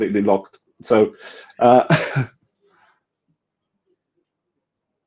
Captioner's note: laughing